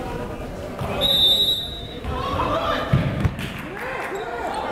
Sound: whistle

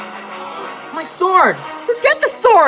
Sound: gasps

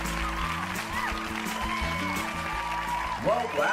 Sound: demors and applause

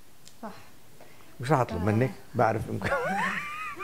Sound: laughing

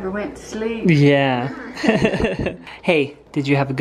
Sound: laughs

